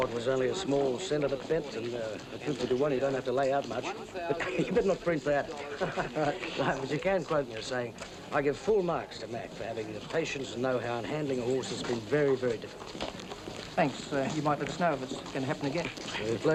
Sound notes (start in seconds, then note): 5.5 chuckles